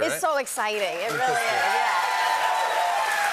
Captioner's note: cheers and applause